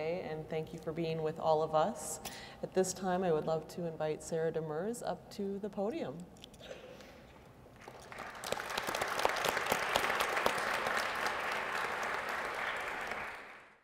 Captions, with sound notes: and thank you for being with all of us. At this time I would love to invite Sarah Demers up to the podium. (audience applauding)